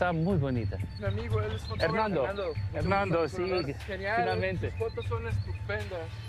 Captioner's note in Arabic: يتحدث الاسبانية